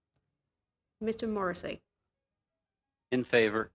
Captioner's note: speaking in French